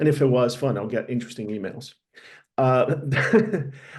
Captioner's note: laughs